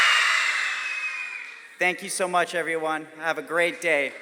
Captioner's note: crowd cheers FOX